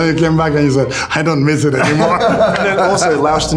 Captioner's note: all laughing